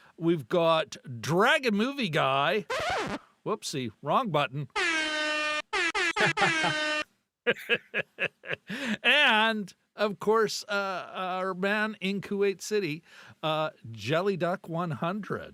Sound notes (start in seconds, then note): 7.4 laughter